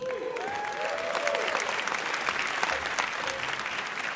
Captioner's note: audience cheers